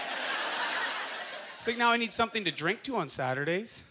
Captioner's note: audience laughter